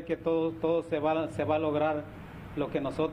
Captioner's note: speaking spanish